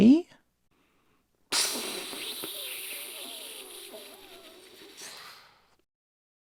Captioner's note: deflating noises